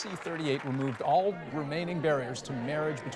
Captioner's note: cheers and Applause